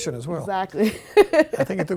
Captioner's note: laughing